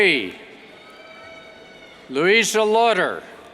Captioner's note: cheers